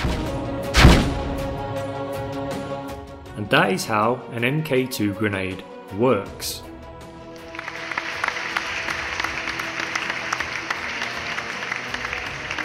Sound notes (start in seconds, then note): 0.7 explosion; 1.3 orchestral music; 7.4 applause